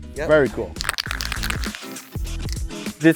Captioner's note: can rattling, hisses